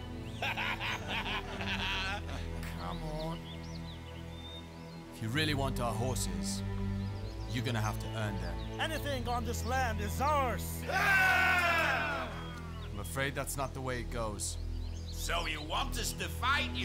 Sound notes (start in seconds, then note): 0.3 laughing; 10.8 all cheering